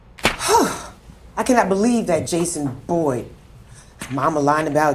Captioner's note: sighing